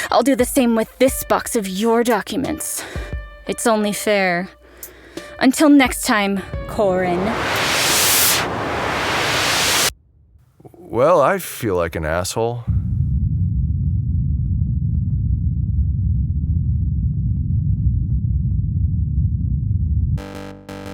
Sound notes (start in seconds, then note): 6.5 noise spike